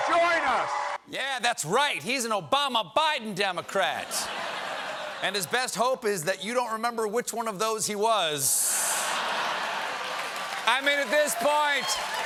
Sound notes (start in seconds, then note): 0.0 cheers and applause; 3.9 laughter